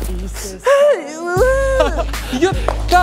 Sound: sobbing

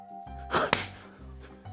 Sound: clap!

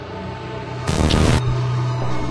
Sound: static noise

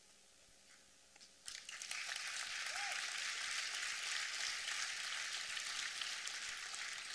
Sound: applause

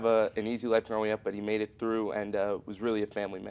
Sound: none

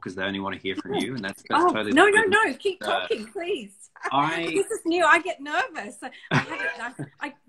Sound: laughs

